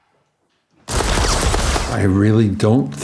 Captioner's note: gunshots firing